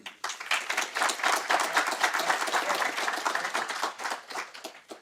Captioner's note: audience applauds